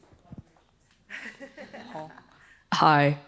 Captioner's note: audience laughing